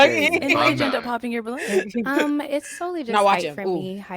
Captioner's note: laughs